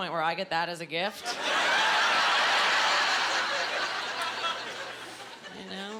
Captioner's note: laughing